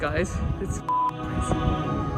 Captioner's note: beep